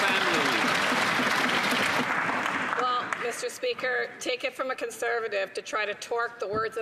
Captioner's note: some Applause